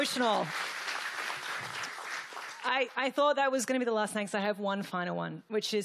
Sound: applause

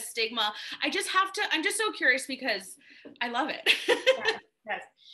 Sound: laughs

